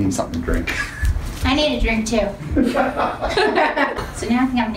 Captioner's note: laughter